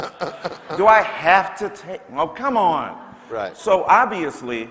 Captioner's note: laughter